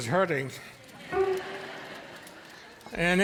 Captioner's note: audience laughing